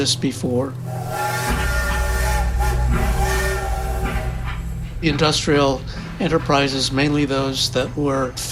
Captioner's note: soundbite of train whistling